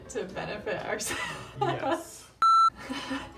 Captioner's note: laughter